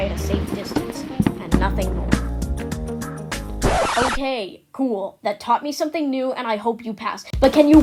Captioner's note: record Scratch